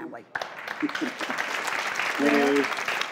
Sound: clapping

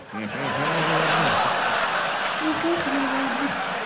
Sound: audience laughs

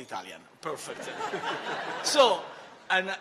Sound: laughter

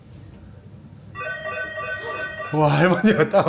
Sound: door bell rings

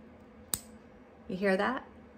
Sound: click

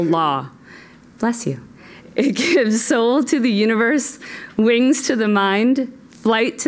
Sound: laugh

